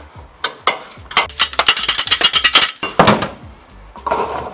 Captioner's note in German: Energisches Klappern